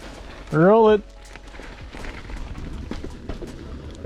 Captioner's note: rider shouting; wheels whooshing